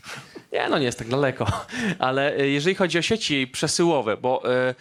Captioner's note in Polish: śmiech; śmiech